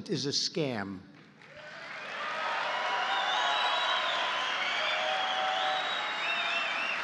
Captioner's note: applause